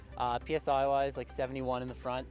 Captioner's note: none